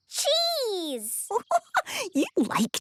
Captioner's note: giggling